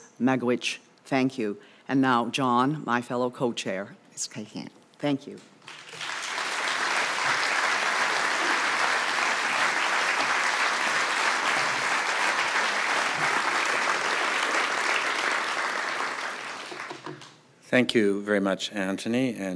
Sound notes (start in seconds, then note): 5.6 applause